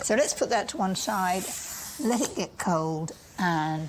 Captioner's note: none